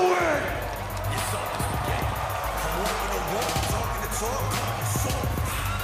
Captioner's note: cheers & applause